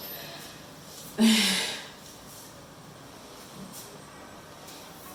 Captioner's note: Leona chuckles